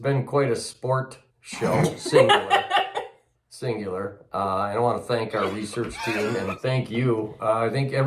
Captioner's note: coughing